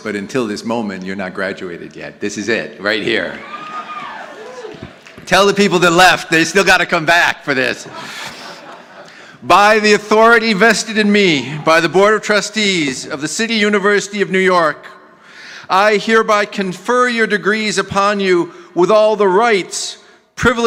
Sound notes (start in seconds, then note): 2.9 audience applauding